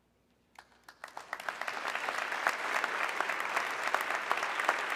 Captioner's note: audience clapping